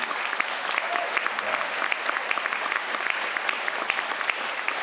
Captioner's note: crowd applauds